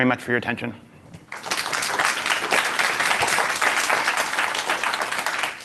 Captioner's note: applause